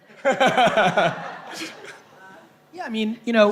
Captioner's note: laughing